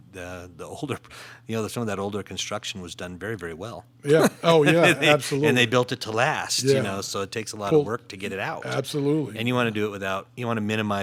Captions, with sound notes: The older, some of that older construction was done very, very well (laughs). - Yeah, absolutely. - And they built it to last so it takes a while to work to get it out. And you wanna do it without, you wanna minimize